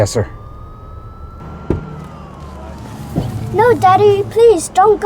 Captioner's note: sirens wailing